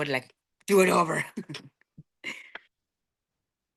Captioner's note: laughing